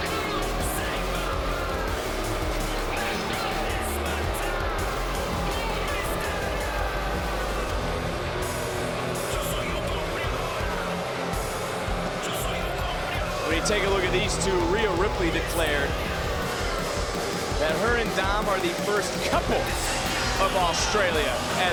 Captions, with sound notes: (crowd continues booing) When you take a look at these two, Rhea Ripley declared that her and Dom are the first couple of Australia,